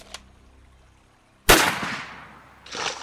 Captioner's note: gun cocking; gun firing; water splashing